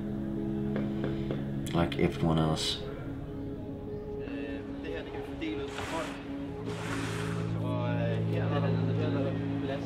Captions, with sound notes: like everyone else. [conversing in foreign language]